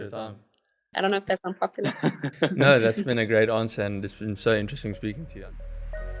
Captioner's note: laugh